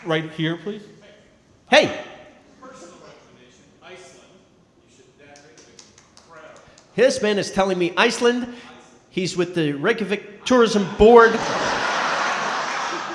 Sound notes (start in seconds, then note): 2.8 speaking softly